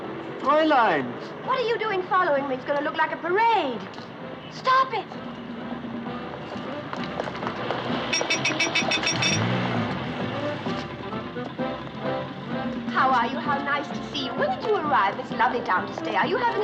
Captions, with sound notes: - Fräulein. Fräulein. - What are you doing following me? It’s gonna look like a parade. Stop it. [Horn Honking] How are you? Nice to see you. When did you arrive?